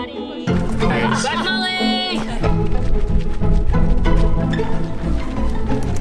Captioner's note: speaking in foreign language